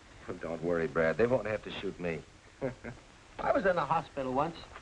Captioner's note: chuckles